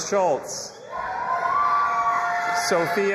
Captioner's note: audience applauding and cheering